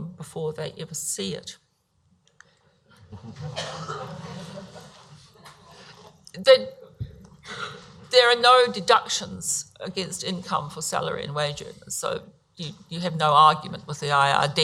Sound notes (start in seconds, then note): 3.8 audience laughs